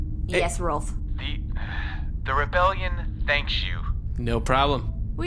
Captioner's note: sighs